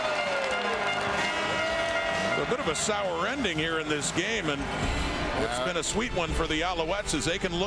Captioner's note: crowd Noise